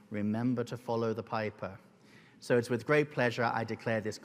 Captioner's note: none